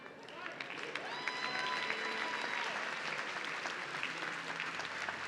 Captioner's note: audience cheering